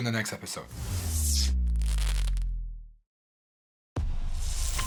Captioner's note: logo booming; logo crackling